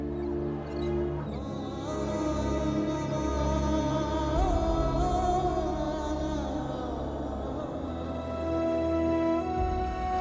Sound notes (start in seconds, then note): none